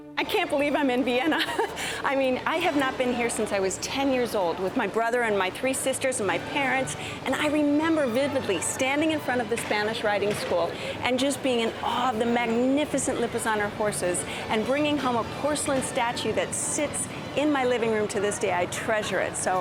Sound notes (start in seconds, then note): 1.3 laughs